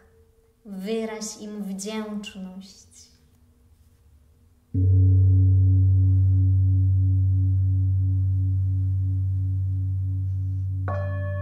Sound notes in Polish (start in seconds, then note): 4.7 gong; 10.6 dźwięki uderzenia w misy